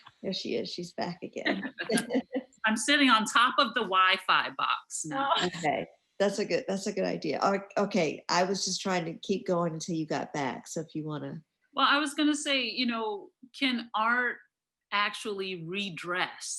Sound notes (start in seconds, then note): 1.4 laughing